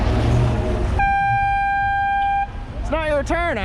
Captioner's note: air horn